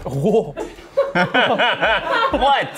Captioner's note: laughs